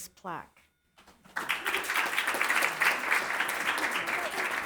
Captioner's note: audience applauds